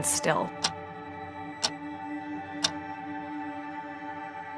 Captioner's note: clock ticking